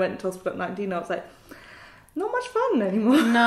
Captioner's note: laughs